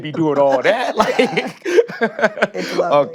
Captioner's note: laughs